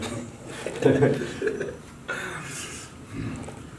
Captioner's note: laughing